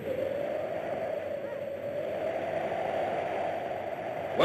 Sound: wind whooshes

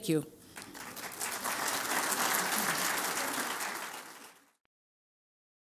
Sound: applause

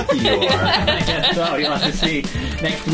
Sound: laughing

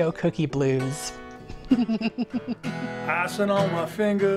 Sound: laughs

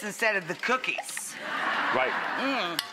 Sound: audience laughter

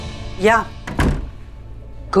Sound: door opens

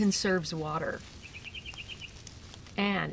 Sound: sound of bird chirping

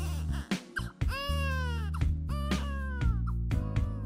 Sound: Mary cries; baby cries; upbeat music

